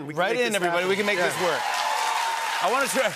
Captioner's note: cheers and applause